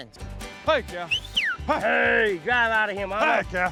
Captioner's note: whistling